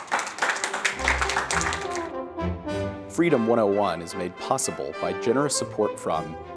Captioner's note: applause